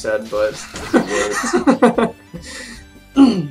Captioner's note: laughing